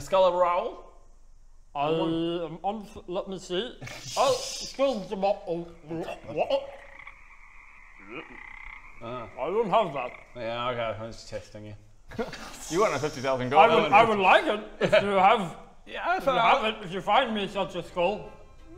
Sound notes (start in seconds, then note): 3.8 croak; 4.7 ribbit